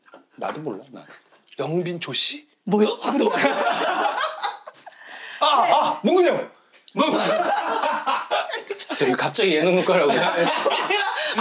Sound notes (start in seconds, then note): 5.2 yelling